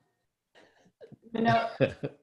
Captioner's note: laughs